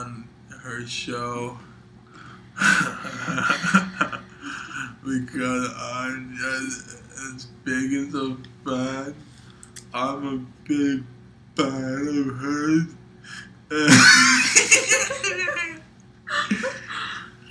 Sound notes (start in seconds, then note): 2.5 laughs; 13.8 laughs